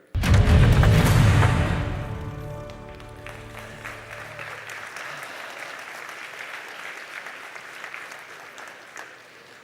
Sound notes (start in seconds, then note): 0.1 dramatic music; 3.0 audience applauding